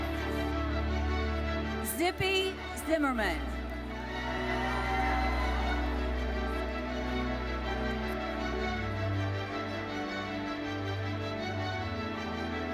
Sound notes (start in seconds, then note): 4.0 audience cheers; 7.3 classical music continues